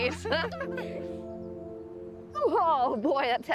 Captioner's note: laughter